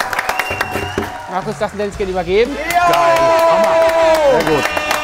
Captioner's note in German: Applaus, Jubel, Pfiffe; Sie jubeln; Applaus, Jubel, Tröten